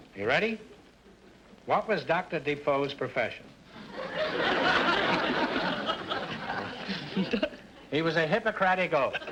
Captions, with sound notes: Are you ready? What was Dr. Defoe's profession? (audience laughter) - A doc...(laughs). - He was a Hippocratic Oaf.